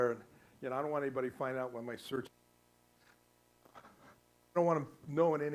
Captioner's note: static